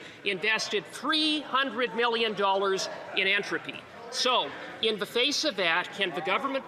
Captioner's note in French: voix de l'interprète